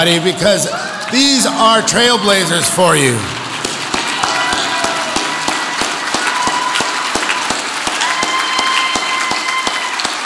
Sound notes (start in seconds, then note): 4.9 audience applauds